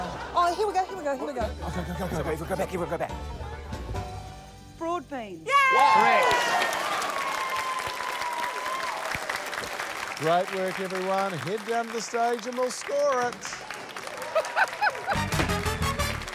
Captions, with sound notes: - Oh, here we go, here we go. - Go back, we'll go back. - Broad beans. (CHEERING, APPLAUSE) - Correct. - Great work, everyone. Head down to the stage and we'll score it. (APPLAUSE)